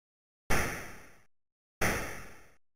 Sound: gun shot

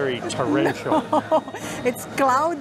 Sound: laughs

